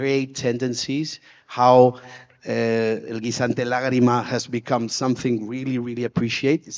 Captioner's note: speaks foreign language